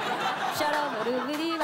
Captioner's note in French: rires